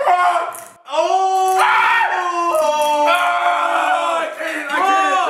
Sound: crunching; shouting

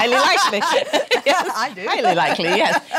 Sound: laughs

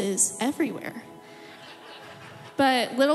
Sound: audience laughs

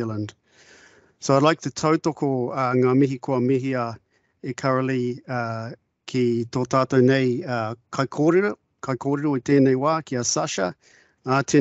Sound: speaking in te reo Māori

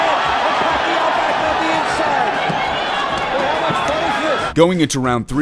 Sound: crowd cheering

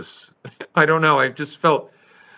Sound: laughs

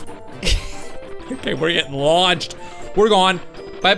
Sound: laughs

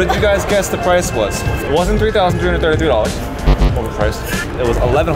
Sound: low pitch buzzer

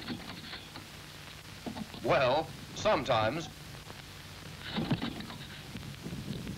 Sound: engine stalls

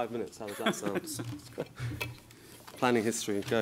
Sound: laughs

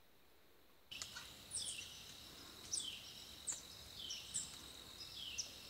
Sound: bird calling

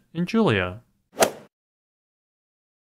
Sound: swoosh

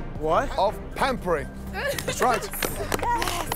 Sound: cheers

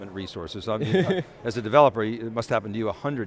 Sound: laughing

